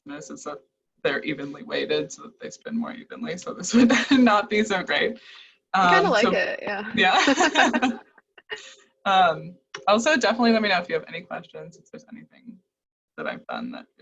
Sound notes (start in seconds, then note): 4.0 laughs; 7.0 both laugh